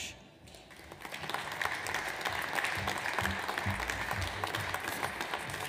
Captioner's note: audience applauds